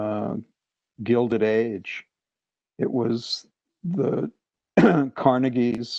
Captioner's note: cough